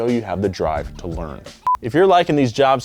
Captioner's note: video beeping